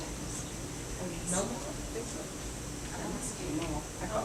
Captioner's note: quiet murmuring